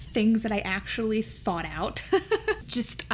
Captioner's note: laughs